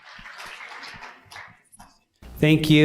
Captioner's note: applause